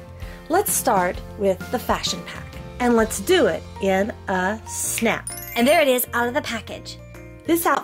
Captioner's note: magic chime